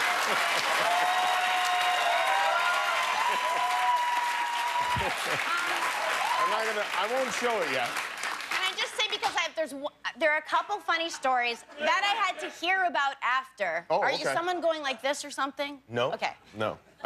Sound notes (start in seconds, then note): 0.8 laughter; 5.5 cheers and applause